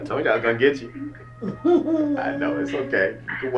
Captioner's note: mom Laughing